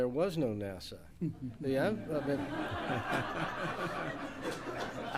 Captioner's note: laughter